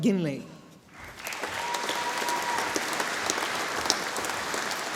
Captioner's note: audience applauding